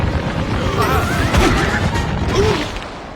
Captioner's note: rumbling; gasping; crashing